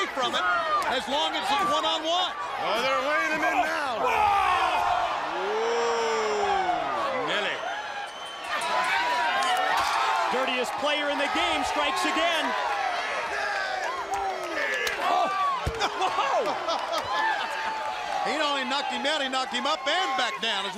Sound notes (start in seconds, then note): 5.3 crowd cheering; 9.5 crowd cheering; 14.8 crowd chatter